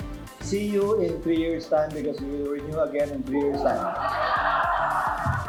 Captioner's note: laughs